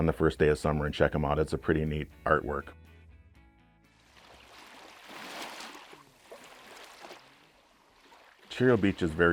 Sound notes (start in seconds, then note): 4.1 waves whooshing